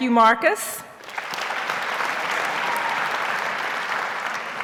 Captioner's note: audience applauds